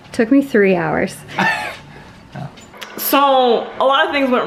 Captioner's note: laughs